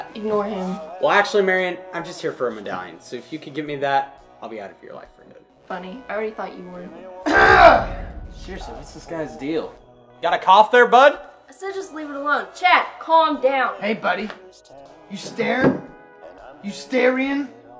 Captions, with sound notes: Ignore him. Well actually Marion, I'm just here for a medallion. So if you could get me that, I'll be out of your life for good. Funny. I already thought you were. *Coughs again* Seriously, what's this guy's deal..? Got a cough there, bud? I said just leave it alone. Chad, calm down! Hey buddy... you starin? you starion?